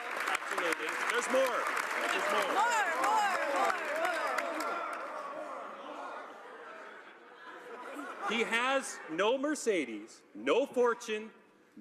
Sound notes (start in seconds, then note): 1.6 applause